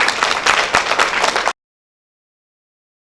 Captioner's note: clapping